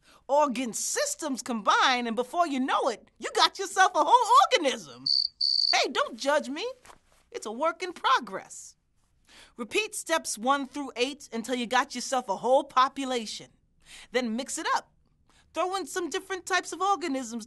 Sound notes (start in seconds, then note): 5.0 cricket noises